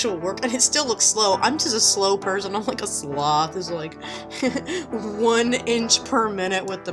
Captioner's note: laughs